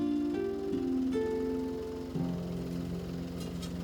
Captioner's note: machine revs